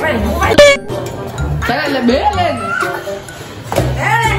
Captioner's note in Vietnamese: rên